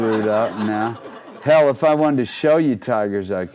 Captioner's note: crowd laughing